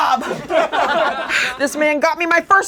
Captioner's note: laughing